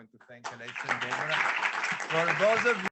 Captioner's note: audience applauding